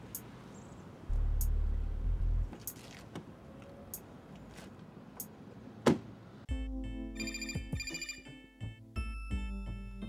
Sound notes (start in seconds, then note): 6.5 sensual music; 7.1 phone rings